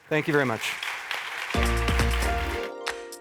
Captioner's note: applause; logo music